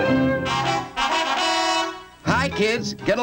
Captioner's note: horn blares